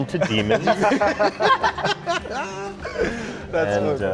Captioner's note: all laughing